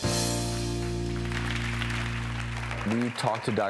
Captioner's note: audience clapping